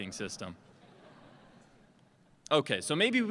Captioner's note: laughter